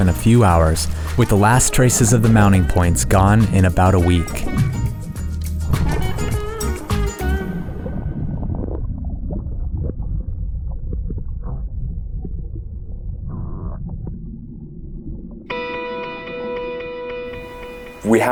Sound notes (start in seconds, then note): 8.1 whooshing and gurgling; 15.7 upbeat music